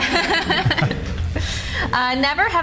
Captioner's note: laughing